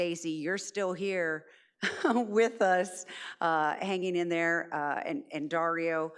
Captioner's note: chuckles